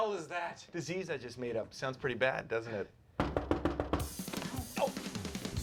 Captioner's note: knock on door